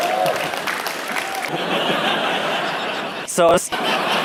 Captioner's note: applause; laughter; crowd laughs harder